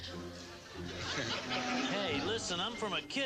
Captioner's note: people giggling